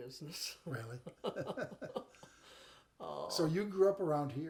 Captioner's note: chuckle